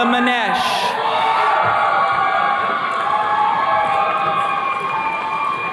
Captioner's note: attendees cheering